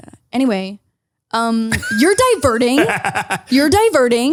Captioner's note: laughs